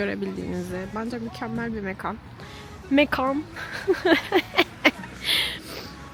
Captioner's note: laughter